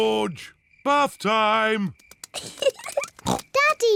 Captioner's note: giggles